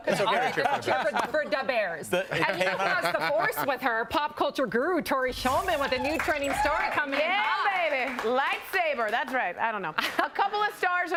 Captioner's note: applause